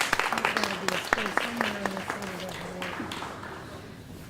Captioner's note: applause